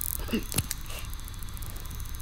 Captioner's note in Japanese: 装着音